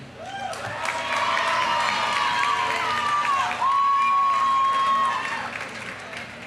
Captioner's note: audience cheering; audience applauding